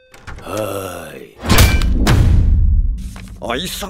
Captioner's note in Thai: ตึง วูบ